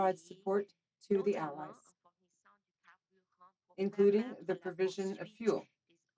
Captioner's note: speaking French